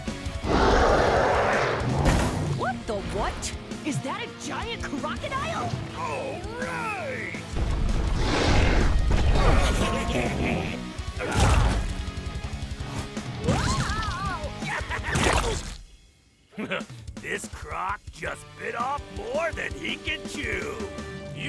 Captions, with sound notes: [roaring] What the what? Is that a giant crocodile? All right! [snarling] [trucks laughing] Raah! Whoa! Ya-ha-ha-ha! Heh, this croc just bit off more than he can chew.